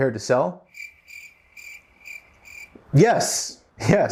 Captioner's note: crickets chirping